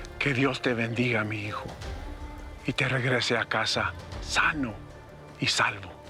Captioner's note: speaking spanish